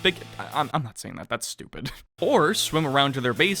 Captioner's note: mild chuckle